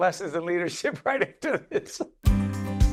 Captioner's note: laughing